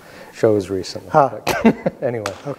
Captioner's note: both laughing